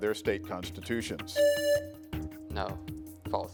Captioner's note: buzzer rings